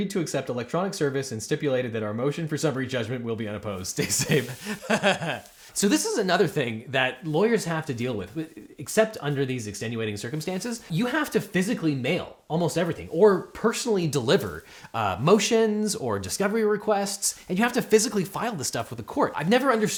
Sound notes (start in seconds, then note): 4.0 host laughs